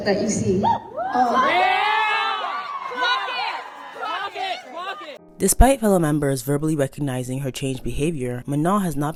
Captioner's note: crowd cheers “clock it! clock it!”